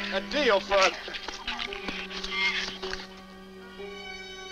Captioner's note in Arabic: ثرثرة الزبابة